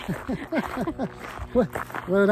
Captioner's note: both chuckling